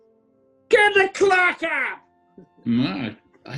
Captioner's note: american accent